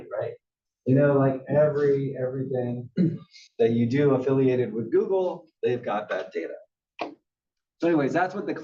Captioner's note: cough